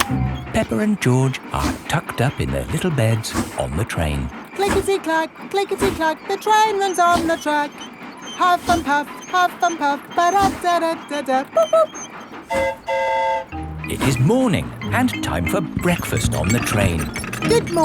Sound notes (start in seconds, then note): 12.4 train whistle toots; 12.4 mimics train whistle